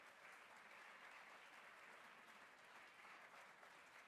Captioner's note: cheers and Applause